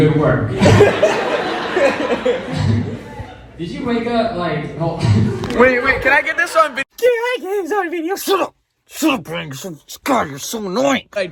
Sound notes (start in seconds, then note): 0.5 crowd laughing